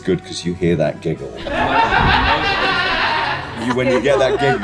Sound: laughter

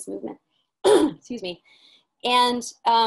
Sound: coughing

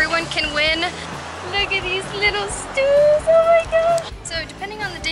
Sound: in a high-pitched voice

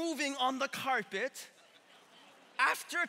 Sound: congregation laughing

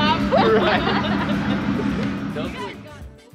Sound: laughter

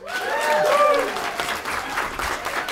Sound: applause

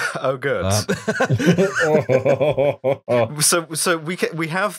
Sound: laughter

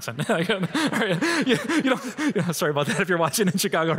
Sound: laughing

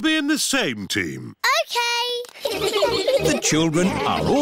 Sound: all giggling

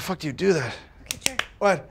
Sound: clapping

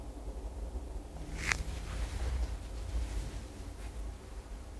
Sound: fabric shifting

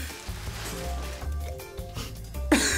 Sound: slime pops; chuckles; laughs

